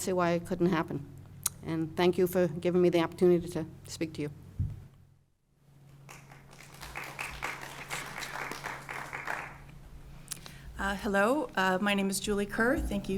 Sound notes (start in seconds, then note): 6.0 applause